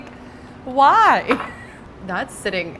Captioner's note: laughs